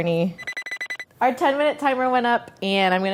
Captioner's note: timer beeping